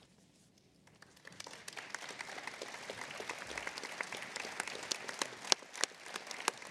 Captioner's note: applause